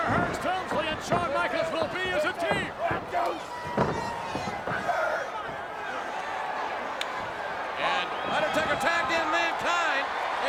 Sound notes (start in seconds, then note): 6.5 audience cheering